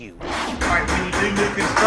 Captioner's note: hammering